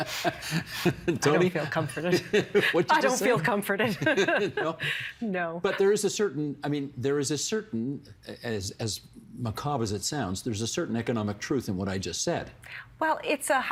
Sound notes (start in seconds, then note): 1.3 laughter